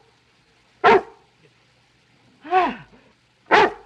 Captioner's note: dog barking